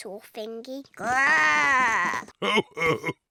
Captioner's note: oinks; growls; chuckles